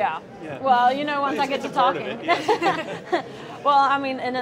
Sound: laughs

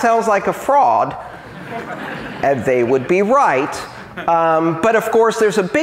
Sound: laughter

